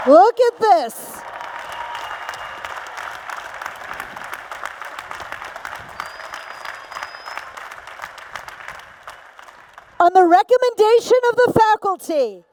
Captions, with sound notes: Look at this. [ Applause ] On the recommendation of the faculty